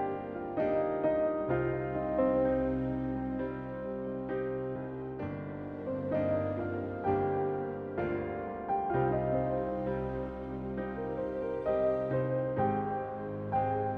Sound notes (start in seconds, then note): none